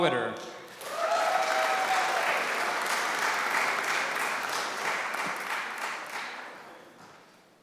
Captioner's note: applause